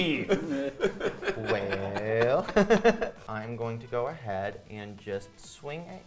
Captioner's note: players laughing